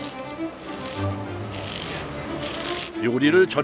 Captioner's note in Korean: 사각사각